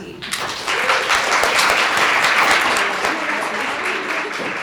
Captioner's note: audience applauding